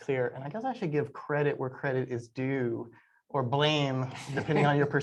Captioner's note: laughter